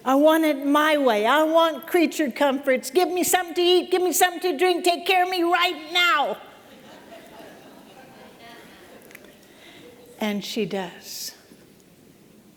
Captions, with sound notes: I want it my way! I want creature comforts! Give me something to eat. Give me something to drink. Take care of me right now!” [LAUGHTER] And she does.